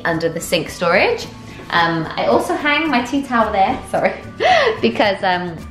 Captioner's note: laughing